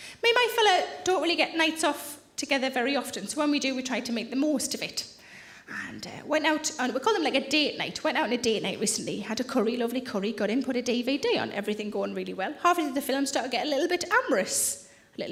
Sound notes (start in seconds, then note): none